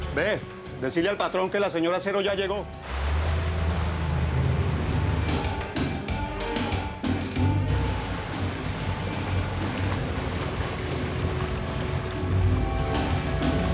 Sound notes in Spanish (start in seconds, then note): 12.5 ruido del agua